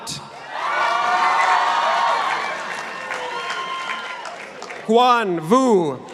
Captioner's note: participants applauding